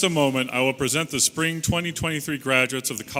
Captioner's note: none